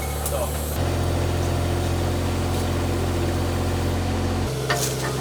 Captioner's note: engine humming